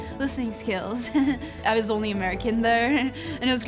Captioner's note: laughs